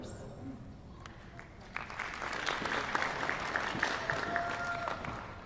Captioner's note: applause